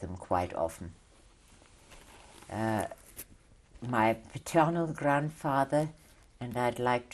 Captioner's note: pauses for 3 seconds